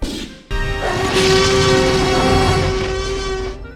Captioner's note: Rex Roars; dinosaur roars